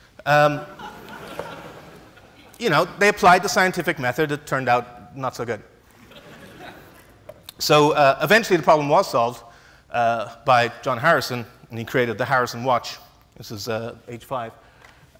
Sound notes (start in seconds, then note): 0.7 laughs; 6.0 laughs